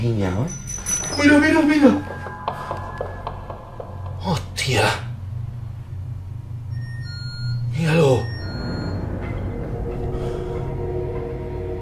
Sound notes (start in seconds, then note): 0.2 the bell rings again; 6.6 the motion sensor rings